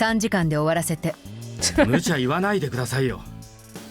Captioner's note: chuckles